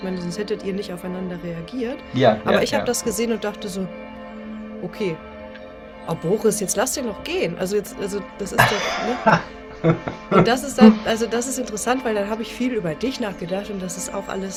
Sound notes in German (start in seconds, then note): 8.6 gelächter